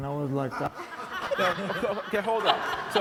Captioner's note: audience laughs